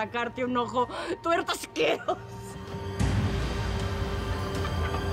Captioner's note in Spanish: Risas